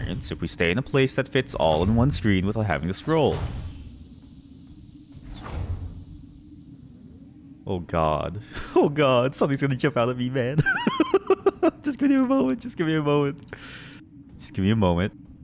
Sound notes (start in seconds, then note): 10.6 nervous laughter; 13.5 deep breath